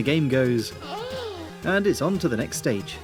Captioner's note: urrrrergh